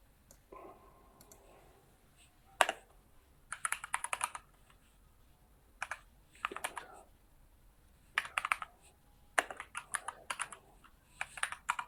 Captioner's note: keyboard sound